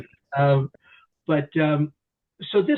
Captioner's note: chuckles